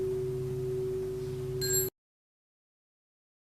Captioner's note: small bell